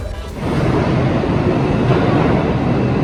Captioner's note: subway train sounds